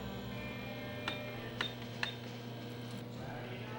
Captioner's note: cash register beeping; jukebox playing